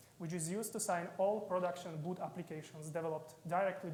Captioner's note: none